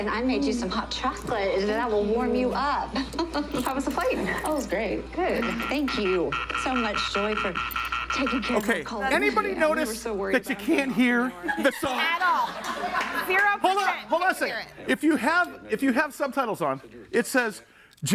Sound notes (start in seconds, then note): 5.2 object buzzes; 10.5 audience laughs